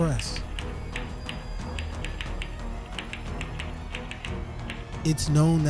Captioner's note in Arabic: النقر اليدوي على مفاتيح الآلة الكاتبة